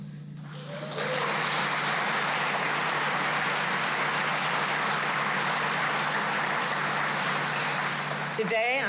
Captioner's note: applause